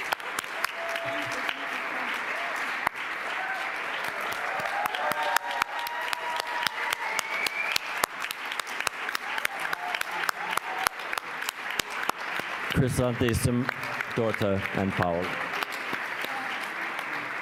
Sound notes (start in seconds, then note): 4.2 applause